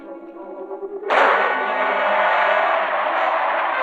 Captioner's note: rockets whooshing